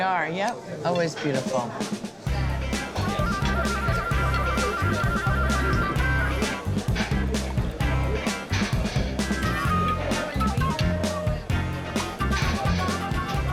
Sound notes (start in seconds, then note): 2.2 upbeat music; 4.2 restaurant patrons talking